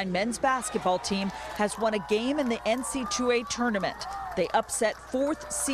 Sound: cheering

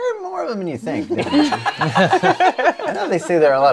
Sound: laughter

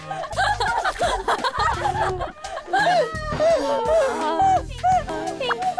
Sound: laughing so hard

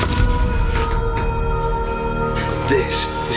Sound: beeping

